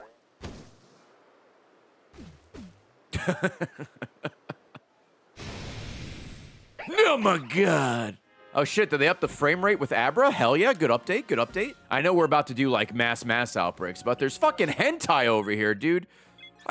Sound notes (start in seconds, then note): 3.1 laughs